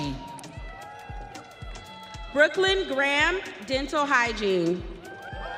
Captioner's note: audience cheering